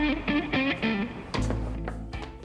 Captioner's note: smooth jazz music; knocking on door